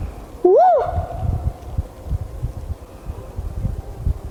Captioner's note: yelps